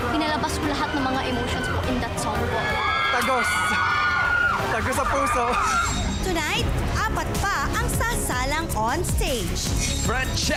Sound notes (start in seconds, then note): 6.0 chuckles